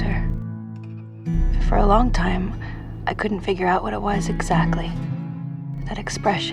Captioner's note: voiceover; voiceover